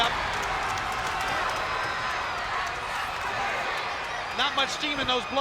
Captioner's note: spectators cheering and applauding